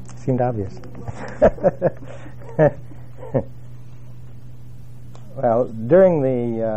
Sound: laugh

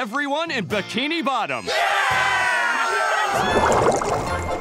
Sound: cheering

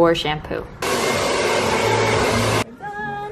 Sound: hair dryer blowing

